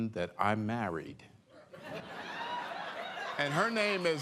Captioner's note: laughter